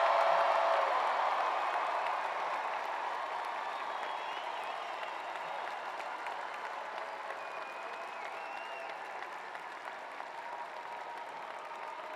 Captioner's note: cheers and applause